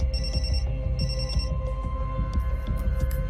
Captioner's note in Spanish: Suena el celular